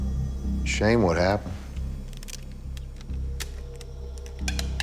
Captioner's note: tape cracking